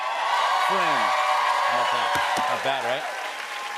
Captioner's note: cheers and applause